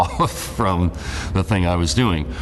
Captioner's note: laughs